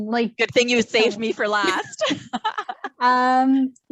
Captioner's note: laughs